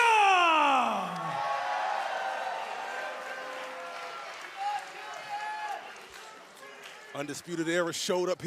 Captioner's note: crowd cheering